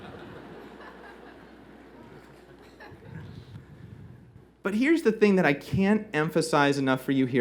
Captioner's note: laughter